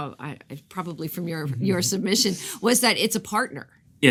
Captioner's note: chuckles